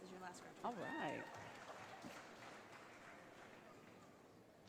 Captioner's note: audience applauding